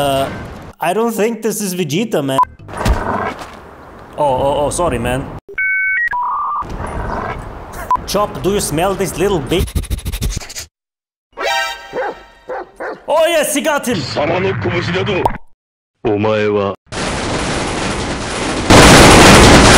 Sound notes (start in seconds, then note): 9.6 intense sniffing